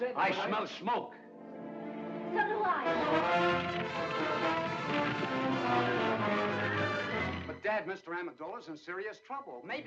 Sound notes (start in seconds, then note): 2.9 fire crackling; 3.0 dramatic music